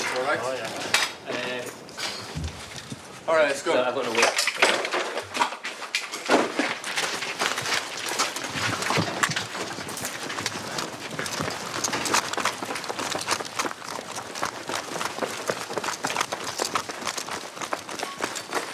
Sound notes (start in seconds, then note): 4.9 footsteps crunching